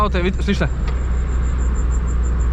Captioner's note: squeaking